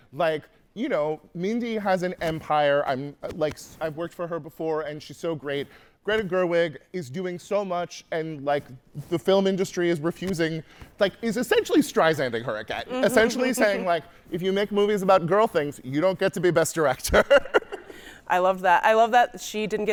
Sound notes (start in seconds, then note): 17.8 laughing